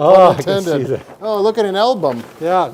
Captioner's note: laughs; chuckles